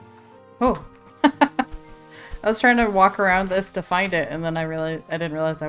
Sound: laughs

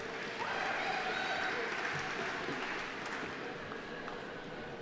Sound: audience applauding

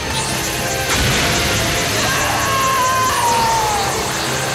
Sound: screaming

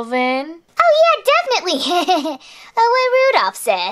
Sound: laughs nervously

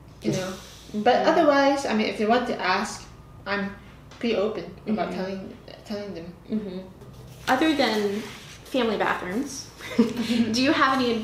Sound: laughter

